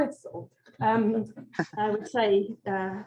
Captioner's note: chuckles